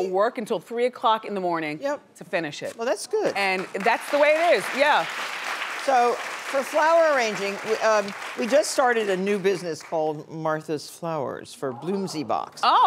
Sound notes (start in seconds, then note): 3.2 audience clapping